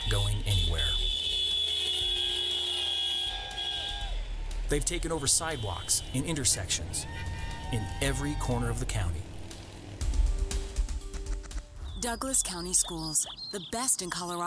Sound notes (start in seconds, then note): 2.0 car horns, cheering